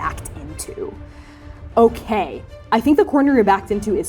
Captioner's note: inhaling deeply